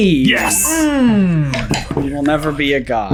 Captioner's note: whispering